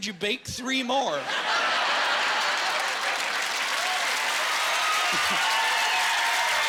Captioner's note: applause